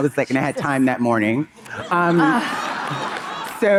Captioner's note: audience laughing